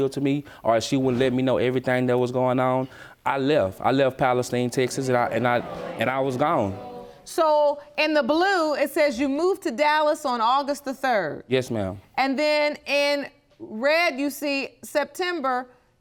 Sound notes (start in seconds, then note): 2.8 audience murmuring